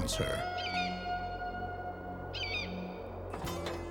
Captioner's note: bird cawing